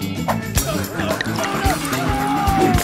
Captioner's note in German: Hämisches Lachen, Schmerzensschreie